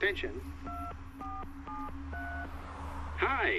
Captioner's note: buttons beeping